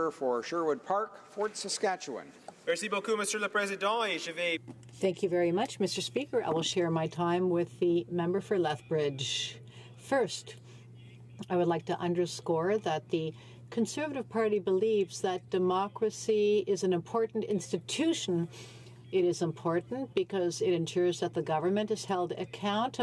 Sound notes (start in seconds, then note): 6.6 speaking French